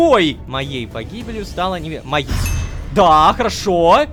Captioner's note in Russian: Страшный звук